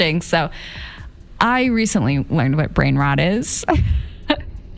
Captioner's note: giggles